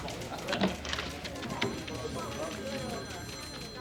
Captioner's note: background chatter